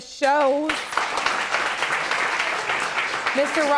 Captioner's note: audience applauding